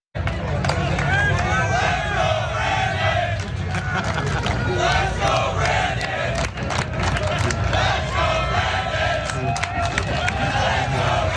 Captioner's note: applause